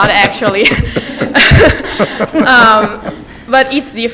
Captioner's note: everyone laughs